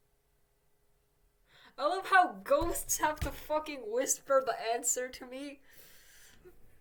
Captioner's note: frustrated desk slam